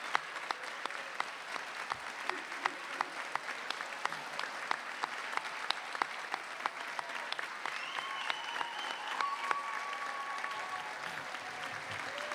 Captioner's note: applause